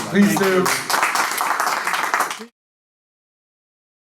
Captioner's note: applause